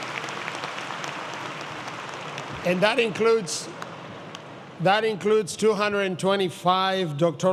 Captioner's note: applause